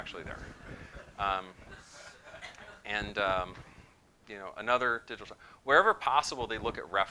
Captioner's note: laughter